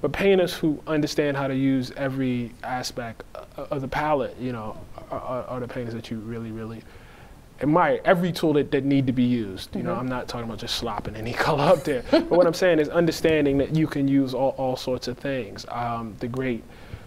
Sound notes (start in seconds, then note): 11.6 laughing